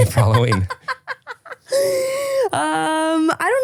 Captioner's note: laughs